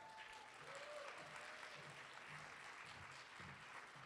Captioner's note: audience cheering